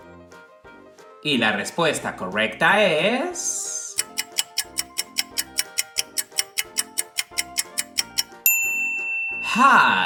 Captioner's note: clock ticking sound